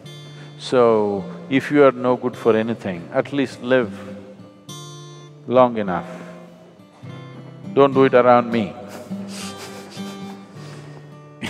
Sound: laughs

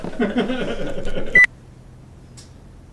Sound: laughter

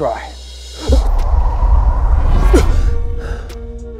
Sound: Tut gasping

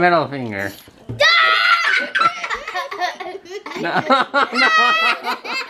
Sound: laughing

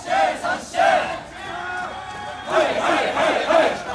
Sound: marching chant

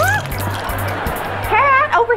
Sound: laughing

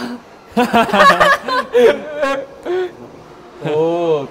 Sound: laughing

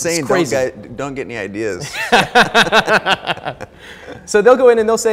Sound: both laughing

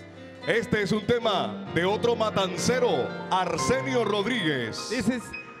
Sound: MC speaking in Spanish

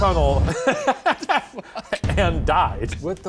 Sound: laughs

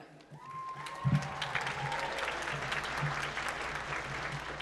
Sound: applause

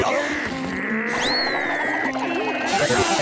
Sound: growling

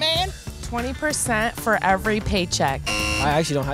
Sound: buzzer

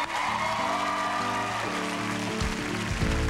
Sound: cheers and applause

